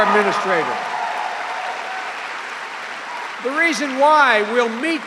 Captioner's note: cheering and applause